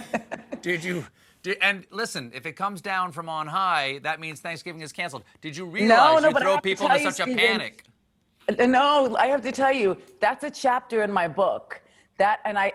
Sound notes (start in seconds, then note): 0.0 laughter